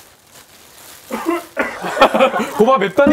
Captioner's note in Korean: 쿨켁켁